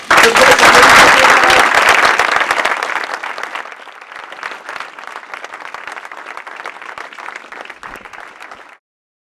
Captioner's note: applause